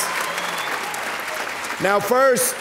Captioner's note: audience cheering and applauding